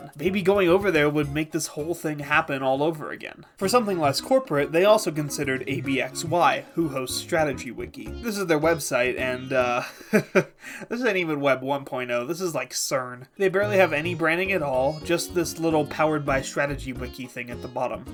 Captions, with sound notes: Maybe going over there would make this whole thing happen all over again. For something less corporate, they also considered ABXY, who host StrategyWiki. This is their website, and, uh… [laughs] This isn’t even Web 1.0, this is like, CERN. They barely have any branding at all, just this little Powered By StrategyWiki thing at the bottom.